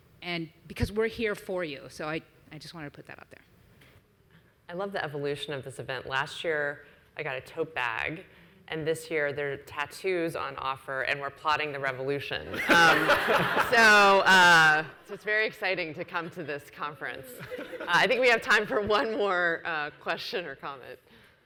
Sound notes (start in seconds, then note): 12.5 audience laughs; 17.3 laughs